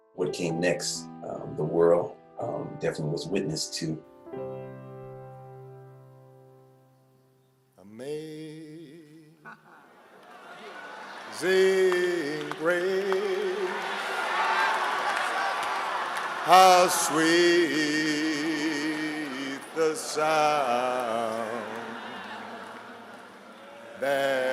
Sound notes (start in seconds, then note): 13.3 funeral attendees shouting out